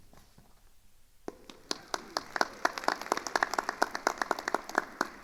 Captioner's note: attendees applauding